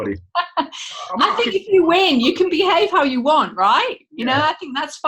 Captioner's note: laughter